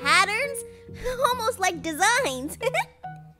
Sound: laughs

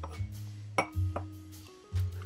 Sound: clinking of glass

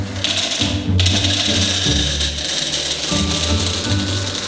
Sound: upbeat music; M&Ms clattering

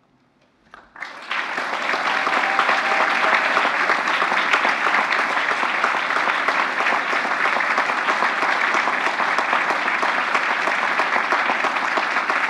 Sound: applause

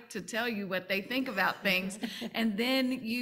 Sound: panel laughing

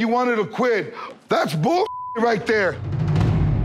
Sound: beep

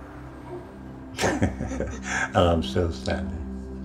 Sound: laughing

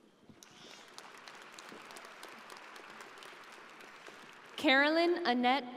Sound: audience applauding

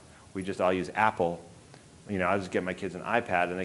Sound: none

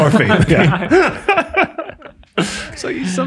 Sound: all laugh

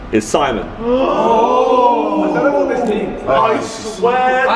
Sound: gasping

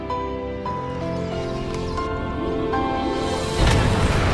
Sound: rumbling, birds calling in distress; crashing and rumbling

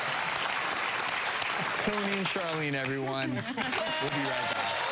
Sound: applause; crowd cheering

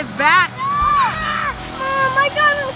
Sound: screaming

